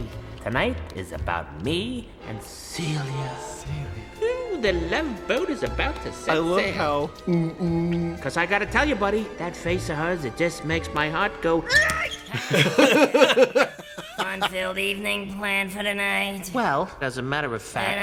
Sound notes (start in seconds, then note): 11.7 yelps